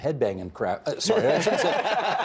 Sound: all laughing

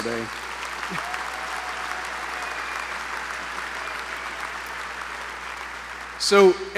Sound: applause

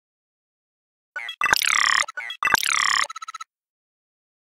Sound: sound of robot

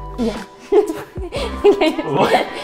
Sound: both laughing

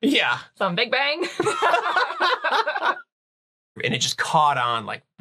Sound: laughing

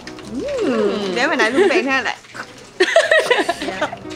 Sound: gags

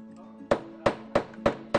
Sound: mallet slamming

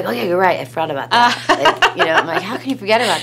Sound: laughs

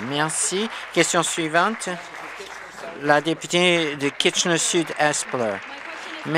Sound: applause

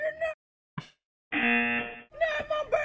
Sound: laughs; buzzer rings

